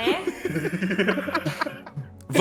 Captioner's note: players laugh